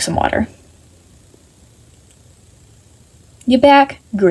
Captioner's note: meaningful silence